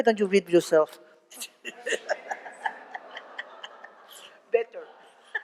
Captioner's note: laughter